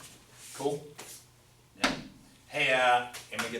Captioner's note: voiceover